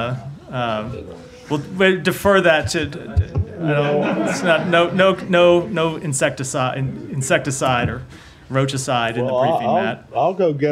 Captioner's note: laughter